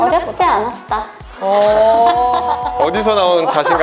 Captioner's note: laughter